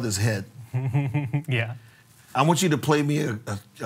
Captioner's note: chuckles